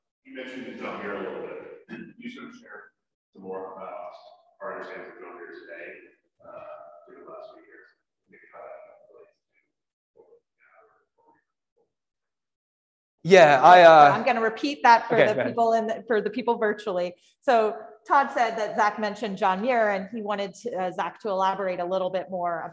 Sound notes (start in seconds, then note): 6.0 speaks faintly